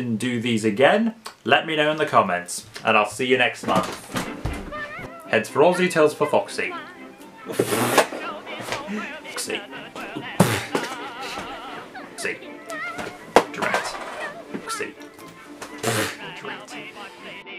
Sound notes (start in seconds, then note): 7.4 snorts